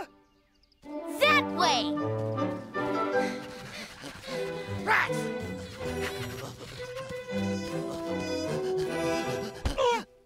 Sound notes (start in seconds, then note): 3.7 grunting; 7.7 gasping